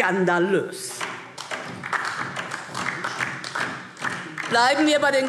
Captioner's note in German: Beifall DIE LINKE